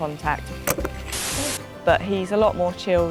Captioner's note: screen fizzing